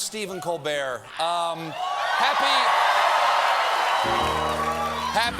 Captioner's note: cheers and applause